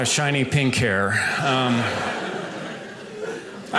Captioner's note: audience laughing